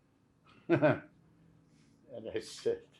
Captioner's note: laughing